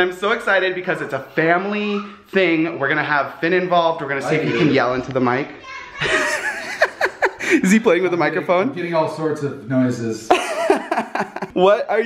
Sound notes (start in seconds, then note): 5.9 yelling; 5.9 laughing; 10.3 laughing